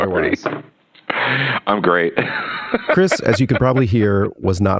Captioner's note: laughs